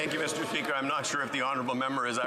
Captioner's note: some Applause